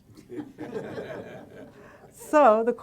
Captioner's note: audience laughing